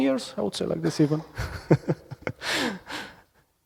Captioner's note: laughs